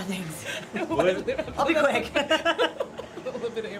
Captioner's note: laughter